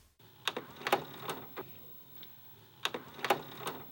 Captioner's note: whirring